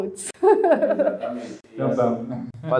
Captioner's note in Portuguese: risos